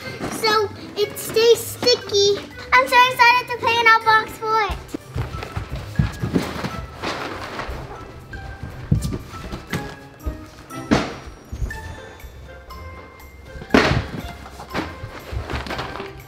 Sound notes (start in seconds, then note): 5.2 playful music; 7.1 boxes shuffling